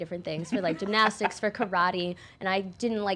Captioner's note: laughing